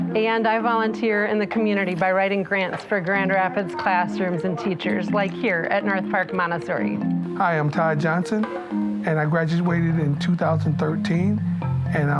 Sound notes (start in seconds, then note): none